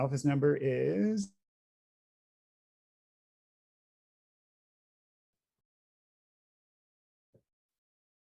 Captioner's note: muted